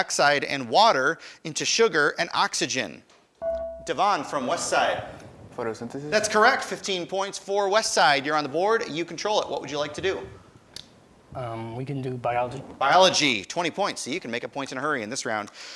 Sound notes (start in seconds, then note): 3.4 buzzer dinging